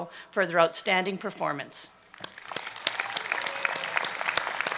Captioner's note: applause